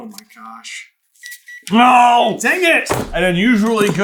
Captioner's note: gentle beeping